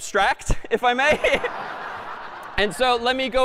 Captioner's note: laughter